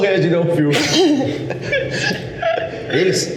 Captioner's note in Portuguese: risos